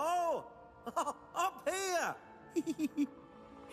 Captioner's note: laughs